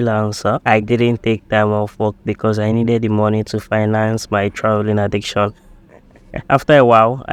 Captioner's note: laughs